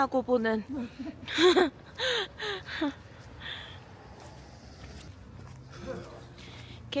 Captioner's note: laughs